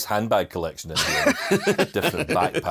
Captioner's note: both laughing